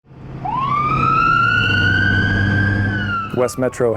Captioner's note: sirens wail